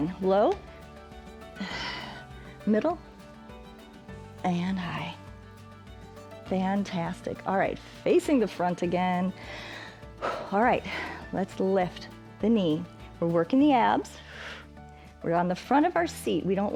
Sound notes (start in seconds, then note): 1.5 exhales; 9.4 inhales and exhales; 14.2 exhales